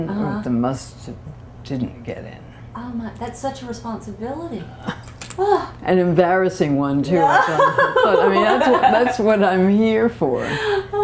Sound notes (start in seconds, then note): 7.2 laughter